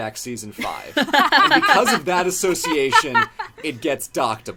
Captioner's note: laughs